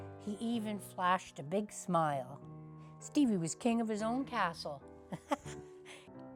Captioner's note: laughs